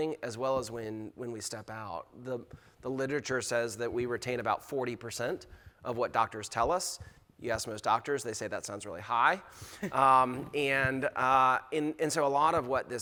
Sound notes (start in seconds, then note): 7.9 chuckles